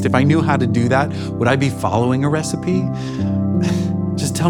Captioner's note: chuckles lightly